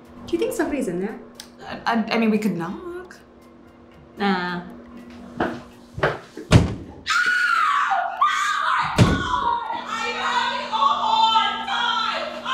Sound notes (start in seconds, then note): 5.3 stomp stomp; 6.5 thud; 7.0 woman in bathroom screams